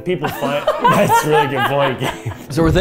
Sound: laughing

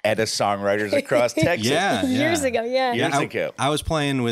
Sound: laughs

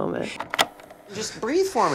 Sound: tape rolling

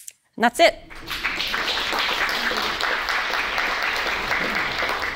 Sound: audience applauding

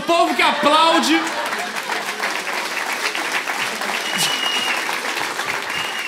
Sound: applause

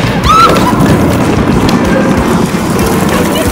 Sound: laughing

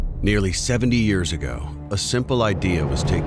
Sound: voiceover

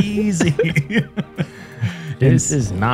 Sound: laughs

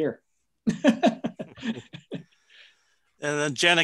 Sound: chuckling

